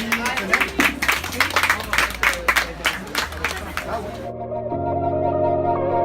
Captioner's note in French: applaudissements